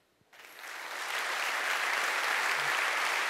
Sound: applause

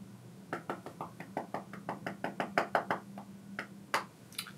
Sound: tapping on calculator

